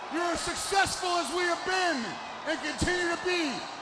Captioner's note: crowd cheering